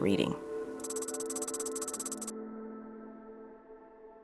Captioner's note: keyboard tapping